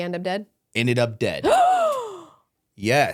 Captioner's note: gasps